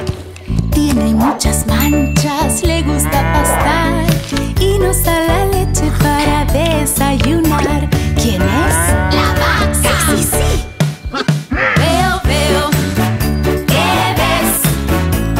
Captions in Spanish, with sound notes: Tiene muchas manchas le gusta pastar. Y nos da la leche para desayunar. ¿Quién es? (Sonido de mugido) ¡La vaca! Si si si Mmmm Veo veo, ¿Qué ves?